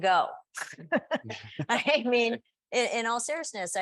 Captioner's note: panelists chuckling